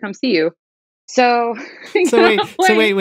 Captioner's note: laughter